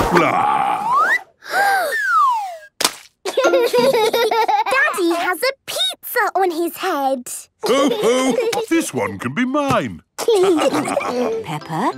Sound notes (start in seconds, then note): 1.4 Peppa gasps; 2.8 splat